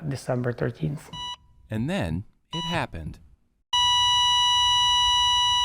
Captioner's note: EKG beeping